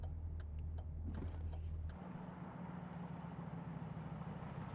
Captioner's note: turn signal clicking